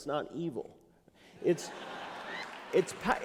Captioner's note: laughter